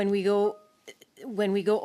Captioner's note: speaking in French